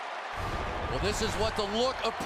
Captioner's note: swoosh